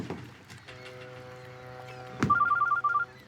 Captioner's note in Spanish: Suena el teléfono